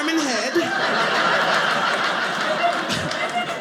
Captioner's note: audience laughing